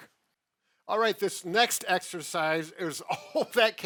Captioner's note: chuckles